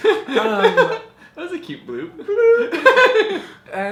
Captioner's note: laughs